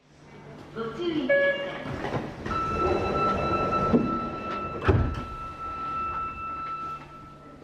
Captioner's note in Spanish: sonido de cierre de puertas